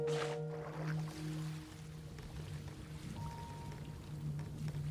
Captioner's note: waves lapping